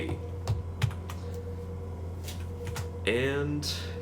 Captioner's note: typing sounds